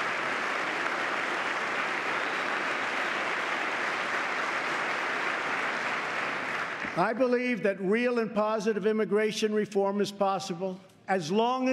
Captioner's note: applause